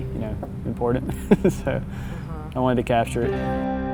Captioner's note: laughs